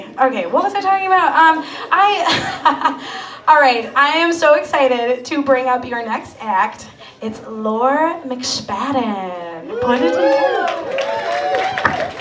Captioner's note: laughs